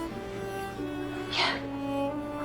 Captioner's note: whispering